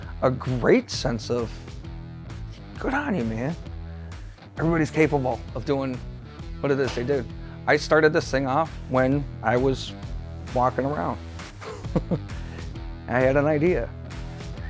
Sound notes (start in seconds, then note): 11.6 man laughing